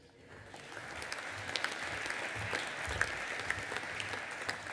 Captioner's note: audience applauding